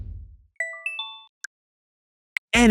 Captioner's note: drum thuds; chiming